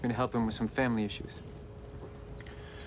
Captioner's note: none